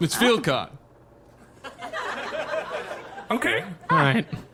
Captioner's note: audience laughter